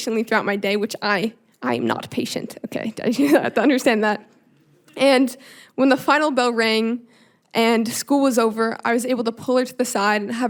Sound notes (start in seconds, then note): 3.0 chuckling